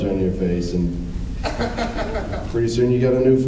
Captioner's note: laughs